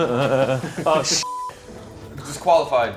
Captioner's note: chuckling; beep